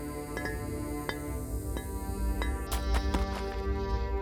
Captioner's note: hammer blows